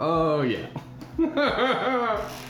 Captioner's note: laughs